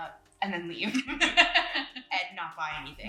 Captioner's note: laughing